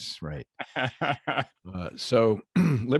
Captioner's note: laughs